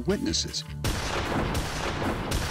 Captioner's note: gunshot